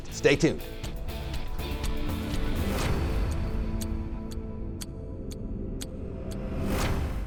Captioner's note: tense music; clocking ticking